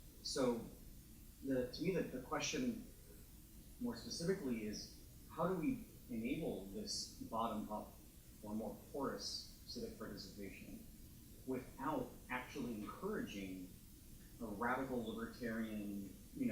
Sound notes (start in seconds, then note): 8.6 speaks faintly